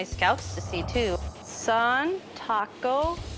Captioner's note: non-english speech